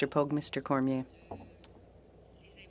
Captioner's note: speaking french